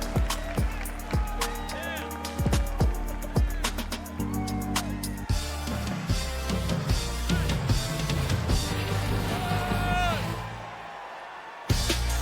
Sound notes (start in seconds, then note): 0.0 cheers and applause